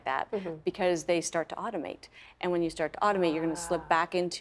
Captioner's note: laughing